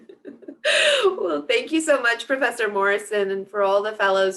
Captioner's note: laughs